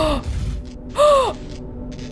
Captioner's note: gasp